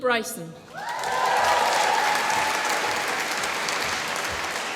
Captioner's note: applause